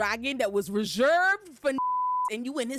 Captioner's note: beep